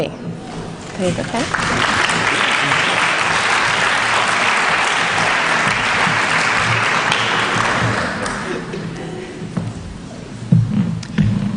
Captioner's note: applause